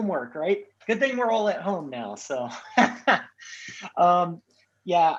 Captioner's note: laughs